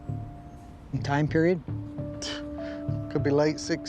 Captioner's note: exhales